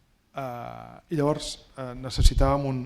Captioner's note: speaking spanish